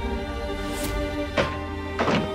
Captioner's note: thud